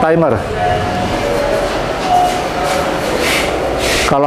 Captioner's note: doorbell sound